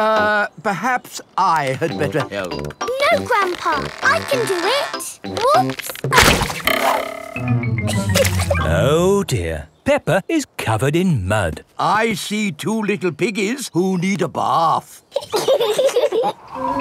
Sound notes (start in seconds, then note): 7.8 chuckles; 15.1 both laughing